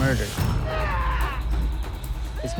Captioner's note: snarling